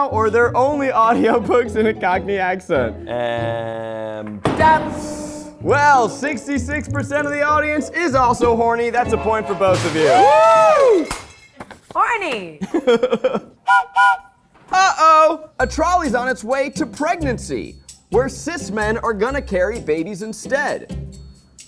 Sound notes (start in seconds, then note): 12.6 laughs; 13.6 whistle blows